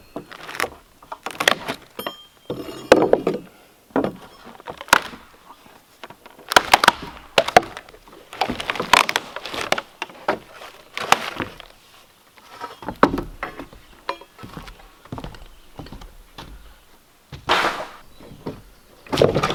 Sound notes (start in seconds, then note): 5.1 nails popping